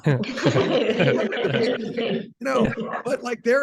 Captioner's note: laughing